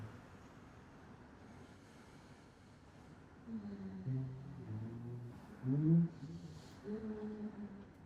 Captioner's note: humming